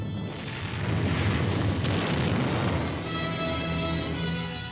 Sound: explosions booming

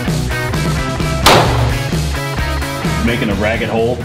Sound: gun firing

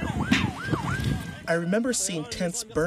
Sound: sirens

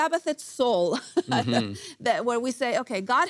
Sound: laughs

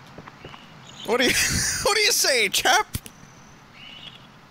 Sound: laughs

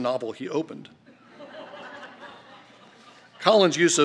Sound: laughter

